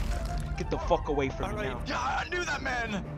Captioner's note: body drops